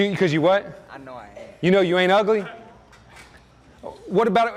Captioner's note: student laughs